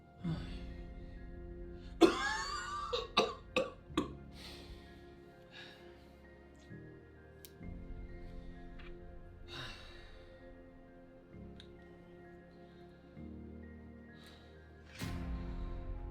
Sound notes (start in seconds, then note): 2.0 Ernesto coughing; 5.1 melancholy music